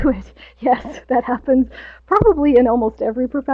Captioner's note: laughs